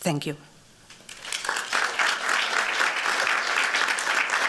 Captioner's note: applause